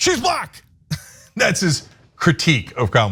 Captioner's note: laugh